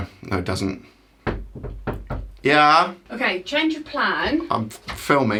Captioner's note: kock on door